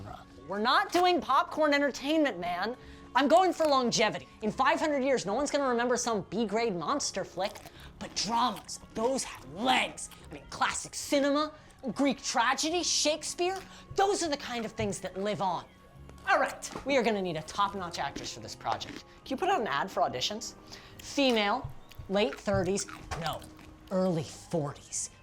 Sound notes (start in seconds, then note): 7.0 vish crunching pickle